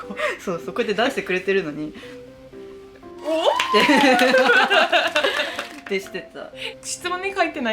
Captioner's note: laughs